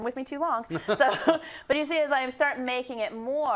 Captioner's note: laugh